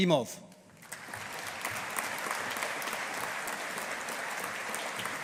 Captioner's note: audience applauding